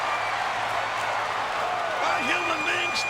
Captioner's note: crowd cheering